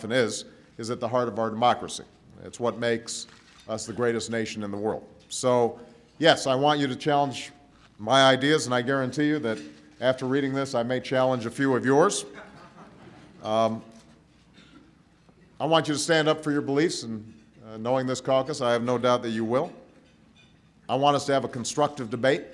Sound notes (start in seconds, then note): 12.3 laughter